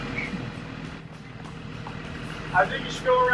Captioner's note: bus engine revving